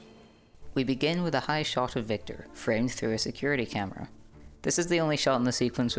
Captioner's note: voiceover